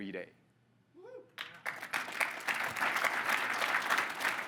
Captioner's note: audience applauding